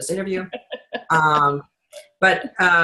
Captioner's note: laughs